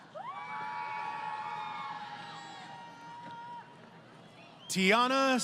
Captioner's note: crowd Cheering